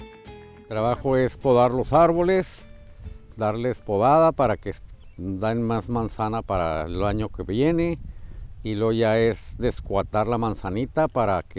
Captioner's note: speaking Spanish